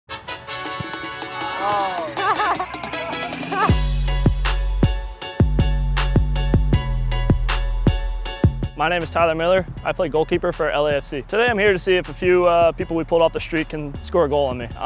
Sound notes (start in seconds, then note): 0.0 upbeat music; 2.0 laughter; 3.5 upbeat music